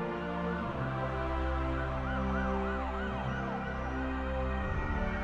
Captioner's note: sirens blaring